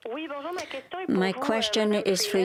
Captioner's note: speaking French